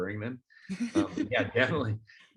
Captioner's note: laughs